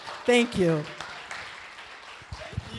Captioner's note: applause